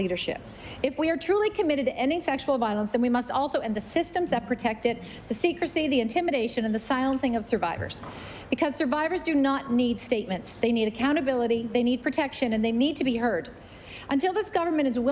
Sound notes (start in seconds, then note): none